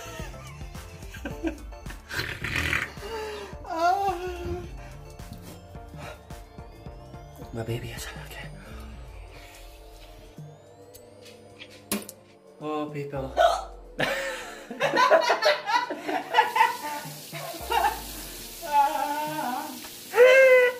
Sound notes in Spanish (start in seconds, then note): 1.0 Risas; 13.4 hipo; 14.3 risa demente